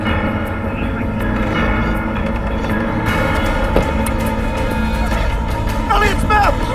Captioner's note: grunting